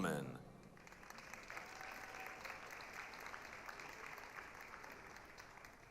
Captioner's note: applause, cheering